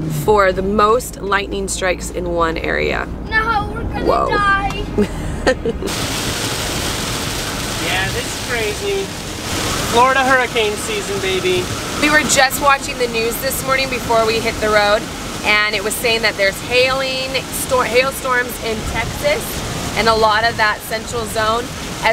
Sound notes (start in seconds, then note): 4.9 laughter; 6.6 rain